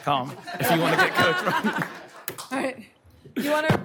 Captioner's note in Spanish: aplausos